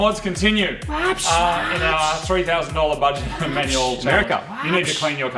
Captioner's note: revving, BOV noises